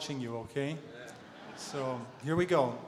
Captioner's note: audience laughter